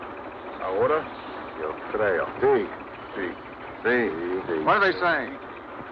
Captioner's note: miners speaking Spanish